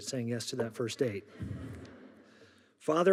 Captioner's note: audience laughing